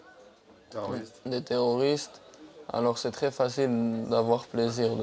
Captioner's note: French spoken audio